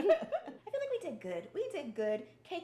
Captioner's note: laughing